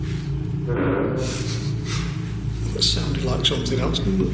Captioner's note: creaking